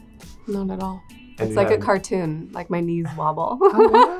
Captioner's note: laughs